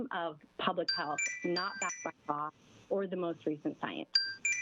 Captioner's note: chime